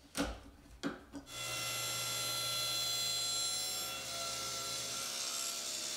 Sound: table saw whirring

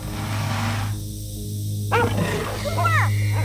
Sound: dog barks

